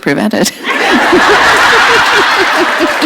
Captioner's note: laughter